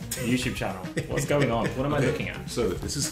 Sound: chuckling

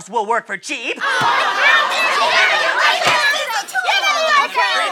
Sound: angry chattering

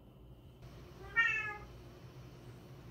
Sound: meow

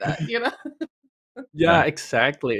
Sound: laughs

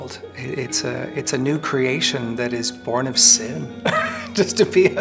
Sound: chuckles

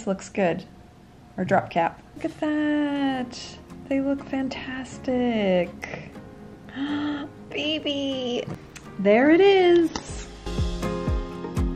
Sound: gasp in awe

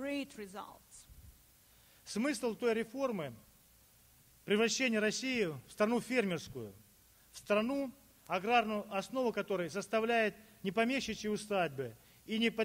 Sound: speaking Russian

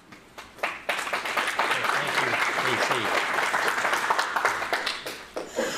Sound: audience applauds

